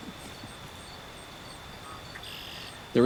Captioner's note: birds chirping